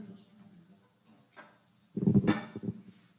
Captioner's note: microphone feedback